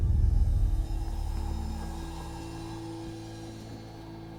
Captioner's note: wind whistling